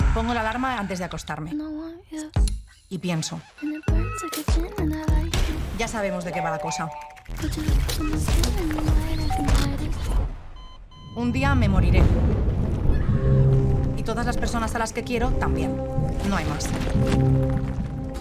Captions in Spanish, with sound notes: "Pongo la alarma antes de acostarme". "Y pienso". "Ya sabemos de qué va la cosa". "Un día, me moriré". (Grito) "Y todas las personas a las que quiero también". "No hay más".